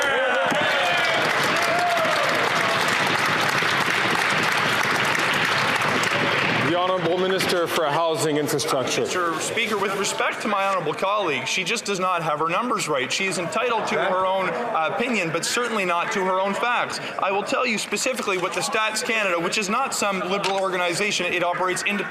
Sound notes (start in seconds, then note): 3.4 some Applause